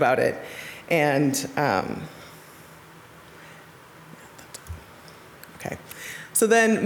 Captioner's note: speaking off mic